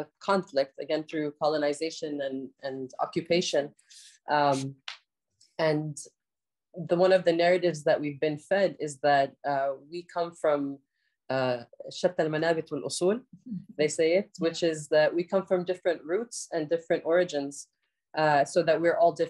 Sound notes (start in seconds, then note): 11.6 speaks arabic